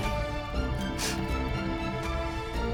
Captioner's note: sniffles